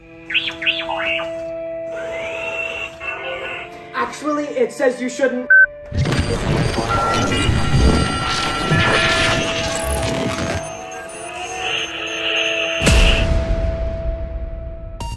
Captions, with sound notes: (robot beeping) - Actually it says you shouldn't (button beeps)